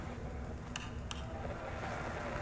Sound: click

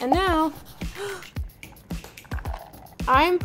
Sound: Madelyn gasps

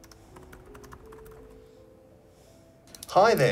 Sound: laptop typing

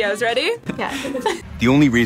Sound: laughs

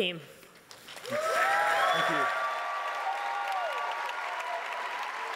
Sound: audience applauding

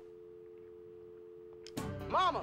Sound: dial tone

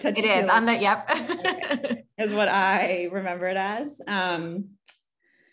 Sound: laugh

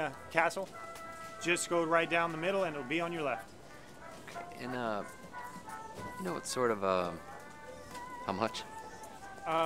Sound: none

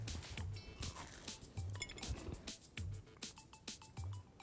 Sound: crunching

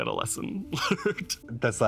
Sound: laughs

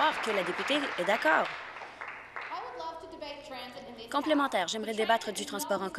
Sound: applause

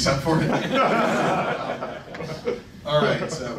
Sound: laughing

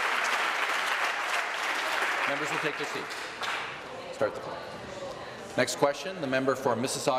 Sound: applause

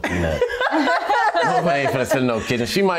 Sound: laugh

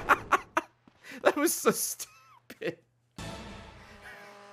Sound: laughs

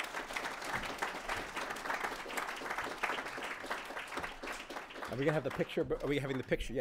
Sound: applause

